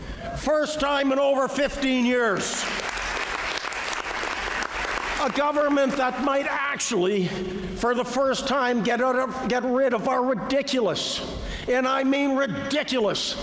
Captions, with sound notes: first time in over 15 years [Applause] a government that might actually for the first time get rid of our ridiculous and I mean ridiculous